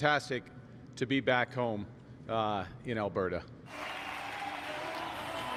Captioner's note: applause